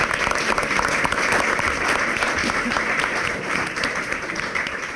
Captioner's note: clapping